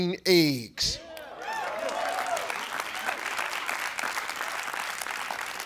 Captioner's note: audience clapping